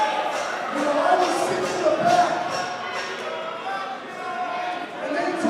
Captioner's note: crowd cheering